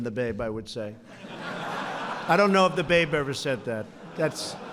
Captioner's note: laughter